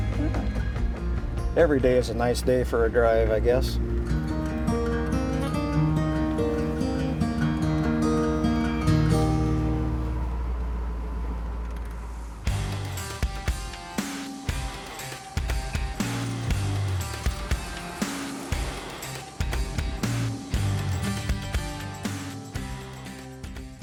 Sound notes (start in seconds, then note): 9.9 engine whirring; 12.5 energetic music